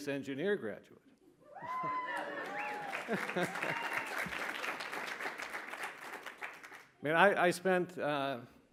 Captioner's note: cheers, applause